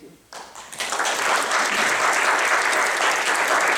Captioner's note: applause